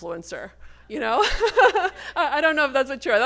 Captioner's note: laughs